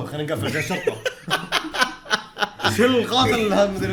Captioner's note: laughs